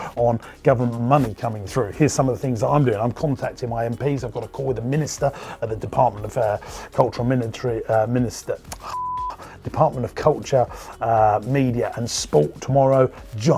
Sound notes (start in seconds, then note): 8.8 beep